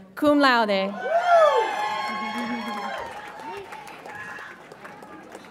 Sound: audience applauds and cheers

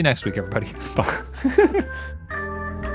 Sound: laughs; lively music

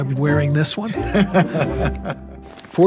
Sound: laughs

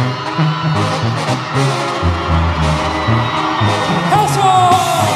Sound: gritos

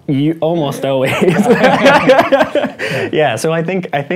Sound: laughing

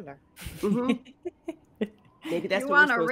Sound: laughter

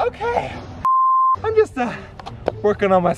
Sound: beep

